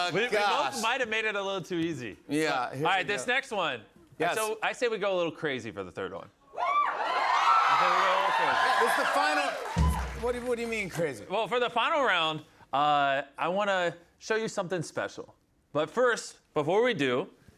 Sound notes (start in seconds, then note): 6.6 cheers and applause